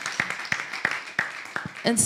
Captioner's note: applause